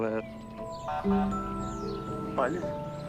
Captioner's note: horn beeps